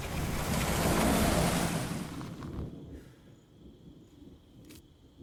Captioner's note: engine hums; crickets chirping